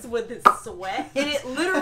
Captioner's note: popping Noise